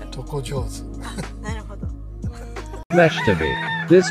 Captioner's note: laughs